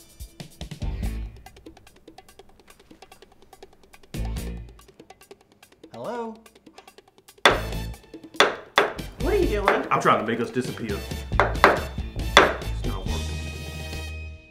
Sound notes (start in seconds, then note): 0.1 tense music; 8.3 gavel bangs; 10.9 dramatic music; 11.2 gavel bangs